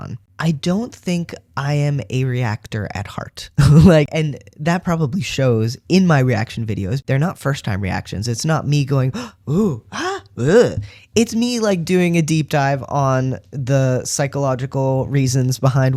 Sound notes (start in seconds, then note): 9.1 various reaction gasps